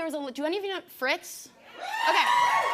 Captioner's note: cheers and applause